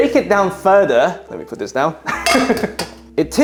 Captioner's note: laughs